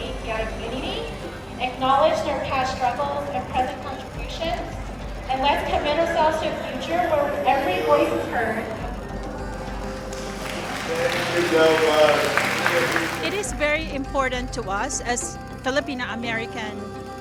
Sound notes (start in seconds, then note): 8.9 applause